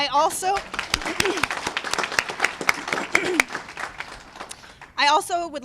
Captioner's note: applause